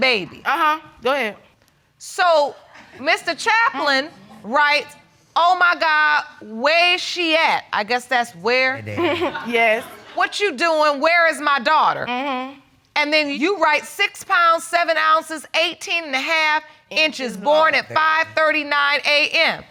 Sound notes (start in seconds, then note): 8.8 chuckles